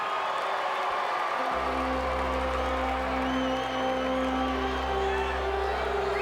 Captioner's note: crowd cheering